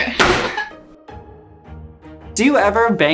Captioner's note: pan banging; laughs